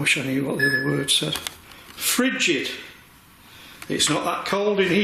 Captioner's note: beeping